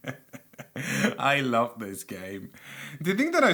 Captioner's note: unstable chuckle